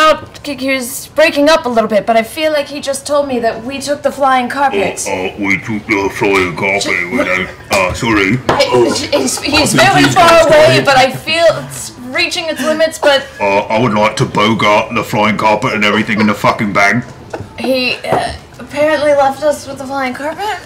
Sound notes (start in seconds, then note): 5.6 imitating Grog; 14.0 imitating Grog